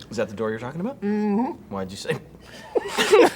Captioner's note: beeping